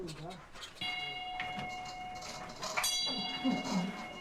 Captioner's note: bell rings